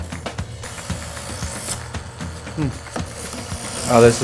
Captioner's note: metal sharpening